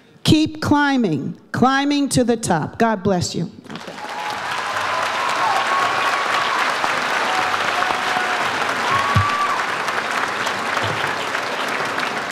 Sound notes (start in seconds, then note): 3.7 audience applauds